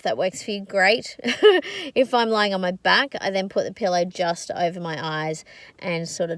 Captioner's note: scoffs